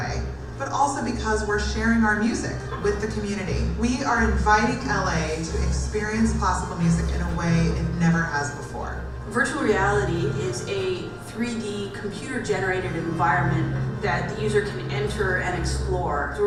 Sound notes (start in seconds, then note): 9.3 voiceover